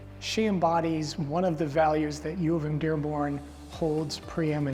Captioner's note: none